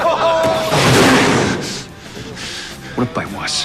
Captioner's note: laughter